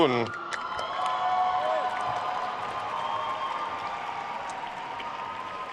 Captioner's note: attendees cheering and applauding